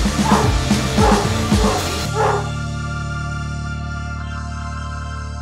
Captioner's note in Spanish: Se escuchan los ladridos de Zimbo Kun